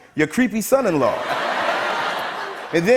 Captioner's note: laughter